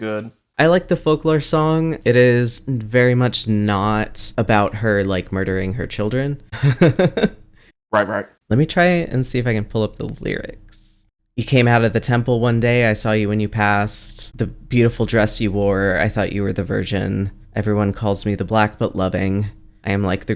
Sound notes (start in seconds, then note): 6.0 laughs